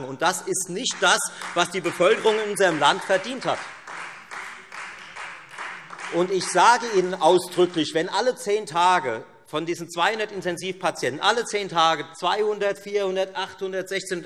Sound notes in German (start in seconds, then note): 3.8 Beifall